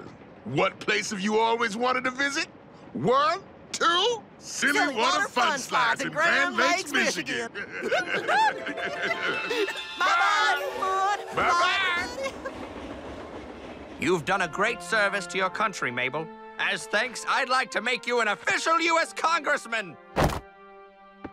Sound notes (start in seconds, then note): 8.9 both laughing